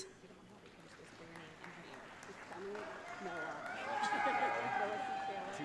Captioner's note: audience cheering